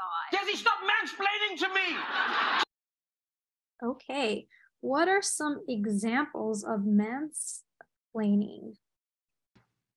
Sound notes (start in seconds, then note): 1.8 audience laughing